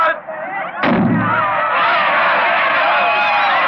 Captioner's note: gun firing; cheering